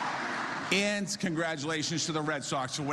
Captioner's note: applause